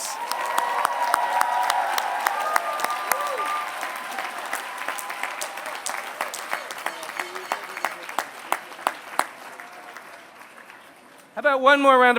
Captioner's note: applause